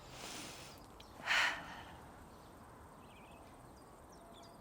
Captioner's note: sighs